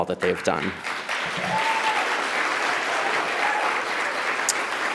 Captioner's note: audience applauds